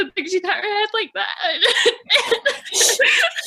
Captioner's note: cries